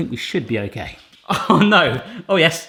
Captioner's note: laughs